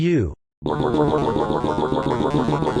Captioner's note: barfing